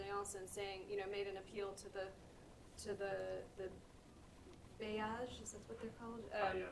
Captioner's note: french; french; french